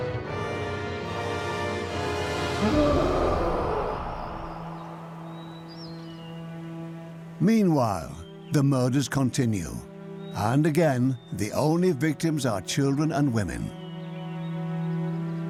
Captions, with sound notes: (howling and snarling) (birds chirping) Meanwhile, the murders continue. And again, the only victims are children and women.